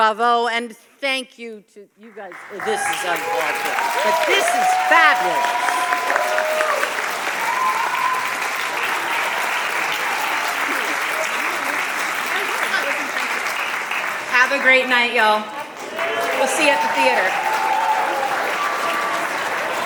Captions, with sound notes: - Bravo. And thank you to you guys. This is fabulous. (audience applauding) - Have a great night y'all. We'll see you at the theatre.